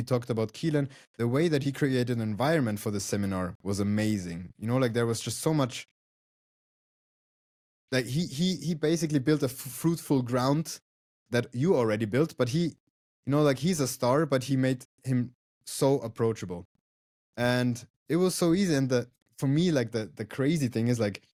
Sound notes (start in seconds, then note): none